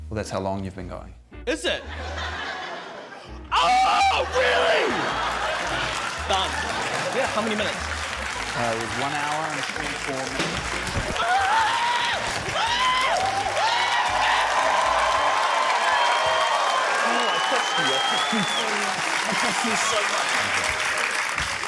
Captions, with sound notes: - Well, that's how long you've been going. - Is it? Oh! Really?! Done. Yeah. How many minutes? - It was one hour and 24 minutes. - (EXCLAIMS, SHOUTS) (CHEERING, APPLAUSE) Oh, I trust you. I trust you so much. I trust you so much.